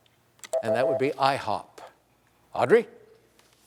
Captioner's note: beep